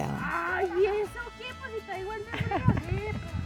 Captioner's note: speaking Spanish